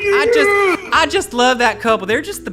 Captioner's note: cheering